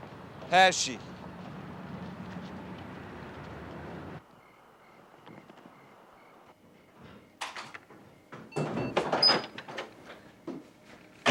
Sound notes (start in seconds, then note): none